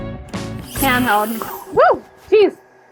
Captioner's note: air hissing